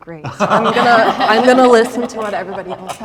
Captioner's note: all laughing